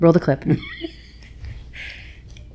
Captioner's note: laughing